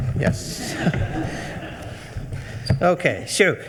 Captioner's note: attendees laughing